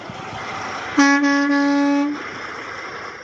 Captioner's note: honk honk honk